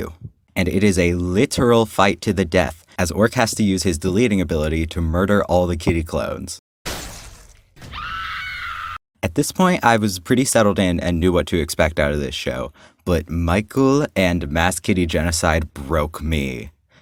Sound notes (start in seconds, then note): 7.8 human woman's scream